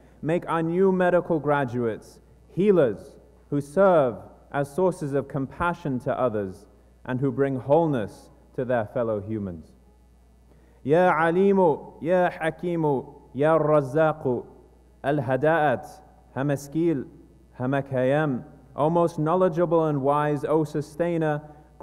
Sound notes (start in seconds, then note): 10.8 speaking non-english